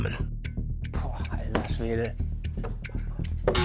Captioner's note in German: Uhrenticken